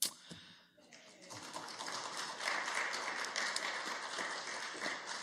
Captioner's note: council applauds